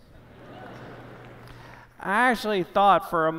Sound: applause

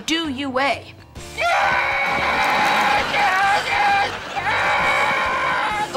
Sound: screaming

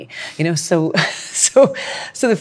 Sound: laughs

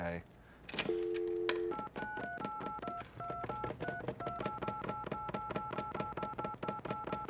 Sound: phone dialing; dial tone

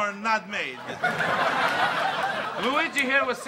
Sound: audience laughs

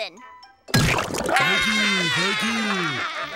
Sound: laughing

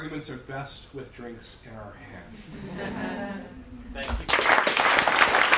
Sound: applause

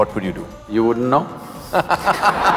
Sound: laughter

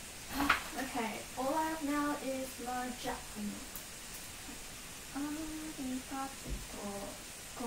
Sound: speaking in Japanese

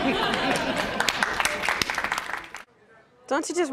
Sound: applause

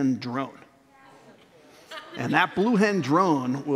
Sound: laughter

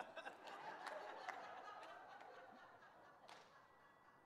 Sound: audience laughing

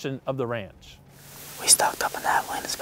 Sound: whispering

